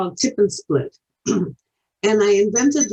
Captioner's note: clears throat